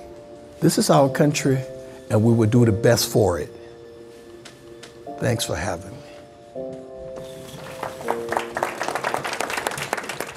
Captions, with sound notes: This is our country, and we will do the best for it. Thanks for having me. (applause)